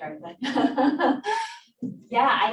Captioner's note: laughs